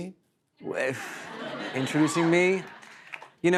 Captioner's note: laughter